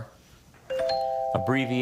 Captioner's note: bell chimes